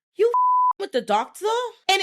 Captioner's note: beep